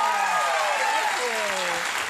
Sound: audience cheers

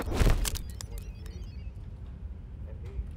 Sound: body thuds

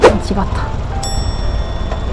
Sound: engine stall

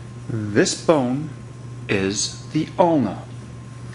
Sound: voiceover

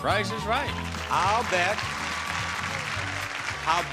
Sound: audience cheering

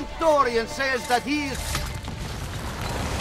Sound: hidden blade stabbing sound

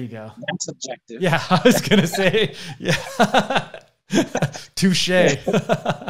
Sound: laughs

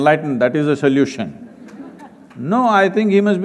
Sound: few laugh

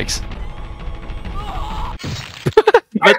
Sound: regular male voice

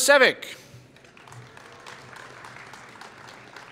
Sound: applause

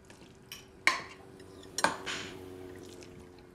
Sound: utensils clanking

